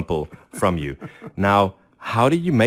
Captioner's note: laughs